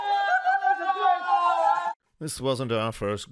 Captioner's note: group screams in shock